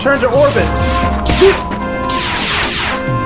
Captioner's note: grunts